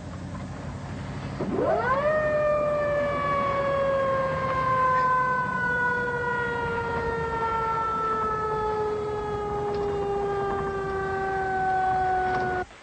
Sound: sirens

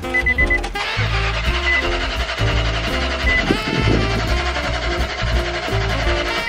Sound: truck sputtering

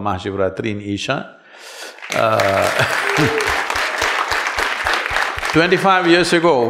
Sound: applause

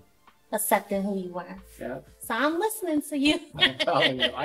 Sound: laughter

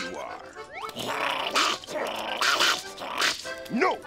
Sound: growling

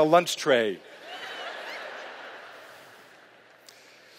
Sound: laughter

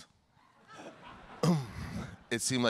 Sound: audience laughing

